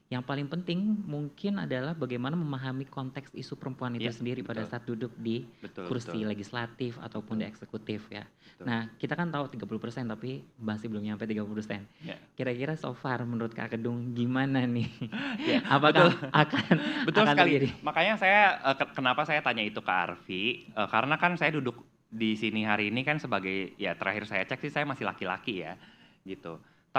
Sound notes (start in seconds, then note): 15.1 laugh